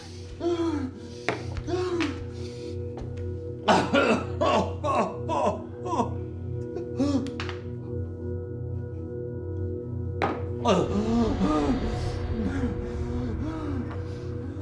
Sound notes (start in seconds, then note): 0.3 Florio breathes heavily, coughs, and moans from pain; 7.7 suspenseful music plays; 10.6 Florio moans and breathes heavily